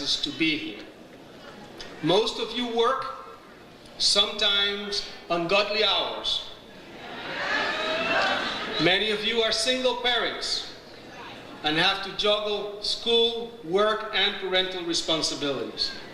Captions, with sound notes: to be here, most of you work, sometimes ungodly hours. (audience laughs) Many of you are single parents, and have to juggle school, work, and parental responsibilities.